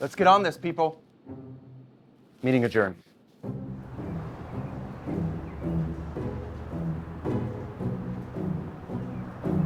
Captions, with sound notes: Let's get on this people. Meeting adjourned. (upbeat music) (birds chirping)